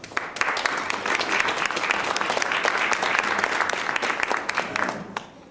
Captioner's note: clapping